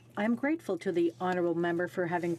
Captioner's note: speaking French